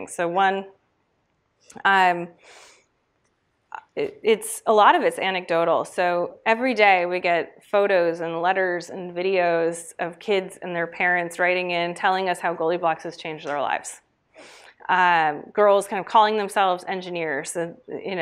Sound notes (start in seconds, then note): none